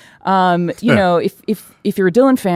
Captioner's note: chuckles